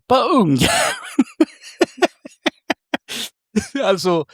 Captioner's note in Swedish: skratt